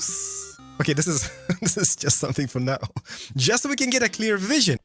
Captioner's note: laughs